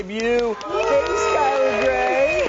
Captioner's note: applause